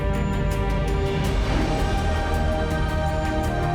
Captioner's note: whoosh